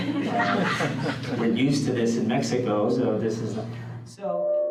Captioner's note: audience laughs